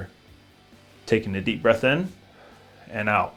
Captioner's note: breathes